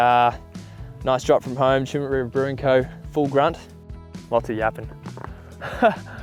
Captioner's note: laughs